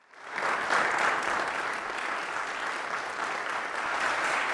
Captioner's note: audience applauding